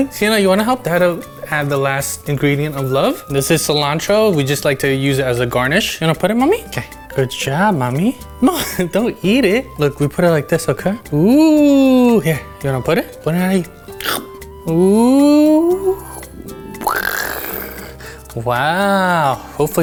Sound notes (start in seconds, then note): 8.5 laughing; 13.8 yowling; 14.0 crunching